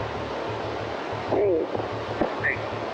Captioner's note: on phone